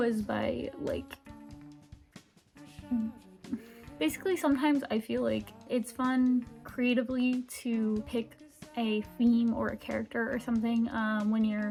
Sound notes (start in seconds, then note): 2.8 sighs